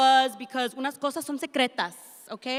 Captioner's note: speaks in Spanish